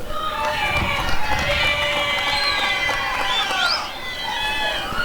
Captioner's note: applause and cheering